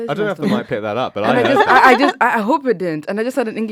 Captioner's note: laughs